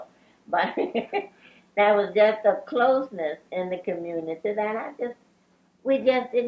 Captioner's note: laughs